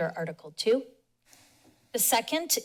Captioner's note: pause